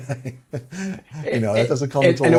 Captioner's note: laughs